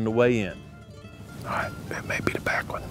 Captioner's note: whispering